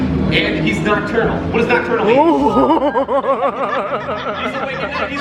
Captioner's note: laughs